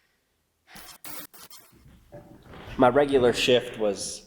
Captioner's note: static crackling